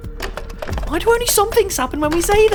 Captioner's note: door knob jangling